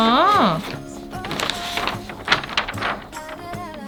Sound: SFX: Rustling

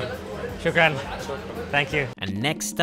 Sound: speaking in foreign language

